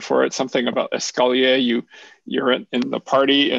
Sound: french

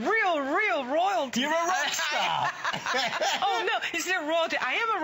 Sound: laughter

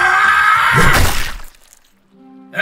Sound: weapon Impact Sound

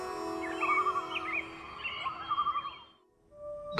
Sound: birds chirping

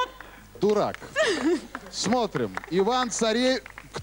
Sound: laughter

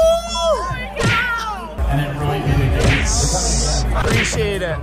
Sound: fists banging

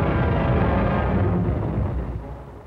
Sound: explosions

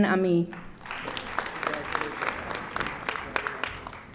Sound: audience applauding

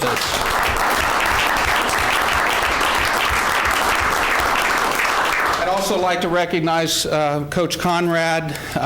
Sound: applause

